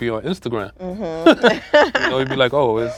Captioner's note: both laugh